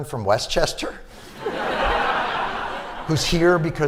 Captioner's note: laughter